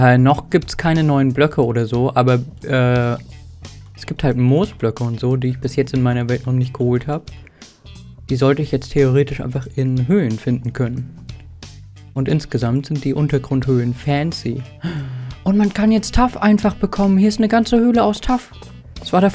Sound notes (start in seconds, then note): 14.8 gasp